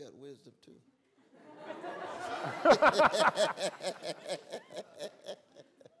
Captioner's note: laughter